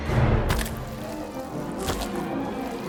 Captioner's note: wet squelching